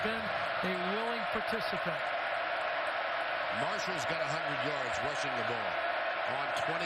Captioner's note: crowd noise